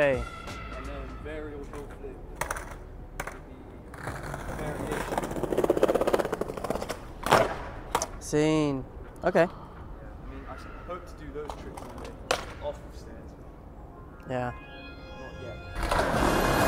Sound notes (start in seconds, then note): 7.2 skateboard clatters; 15.8 skateboarding rolling